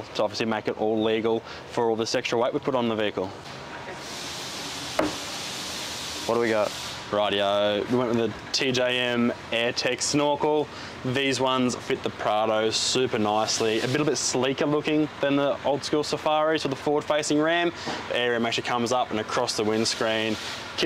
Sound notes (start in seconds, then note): 5.0 hand bangs